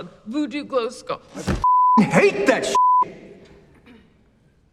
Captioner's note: beeping